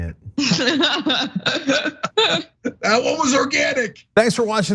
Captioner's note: laugh